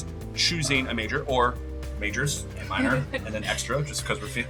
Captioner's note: chuckling